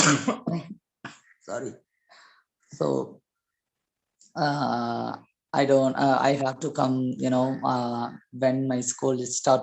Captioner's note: cough